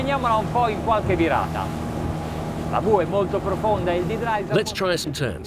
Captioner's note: speaking foreign language